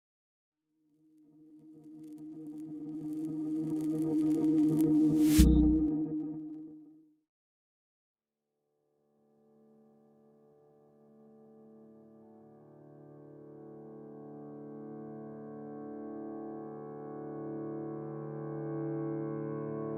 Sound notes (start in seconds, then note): 0.8 silence